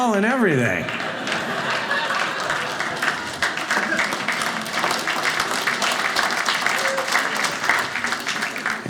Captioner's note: audience applauding